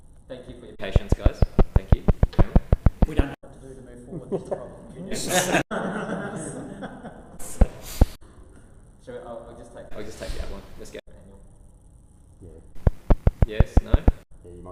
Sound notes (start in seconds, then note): 4.1 group laughs